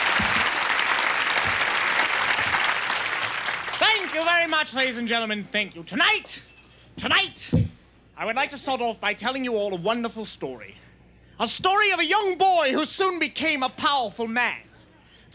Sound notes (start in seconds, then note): 0.1 microphone thumping; 7.4 microphone thumps